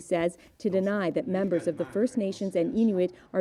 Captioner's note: speaking French